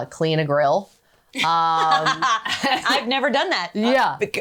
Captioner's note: laughs